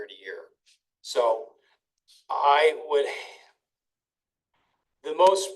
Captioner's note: sighs